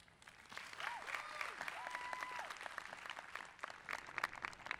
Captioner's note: people applauding